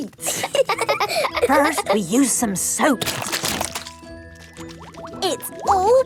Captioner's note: laughing; squirt! squirt!